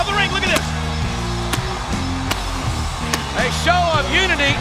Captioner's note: pyrotechnics blasting